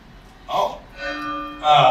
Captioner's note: bell chimes